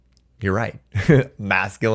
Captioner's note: chuckles